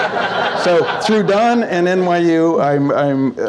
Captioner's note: audience Laughs; laughs